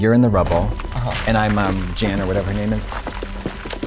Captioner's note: stone crashing